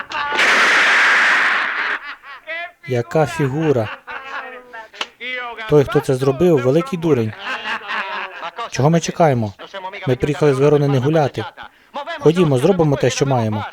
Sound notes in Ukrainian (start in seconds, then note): 3.5 сміється; 7.0 сміється